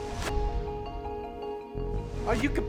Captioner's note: whooshing sounds